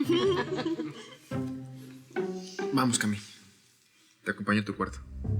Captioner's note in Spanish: Risas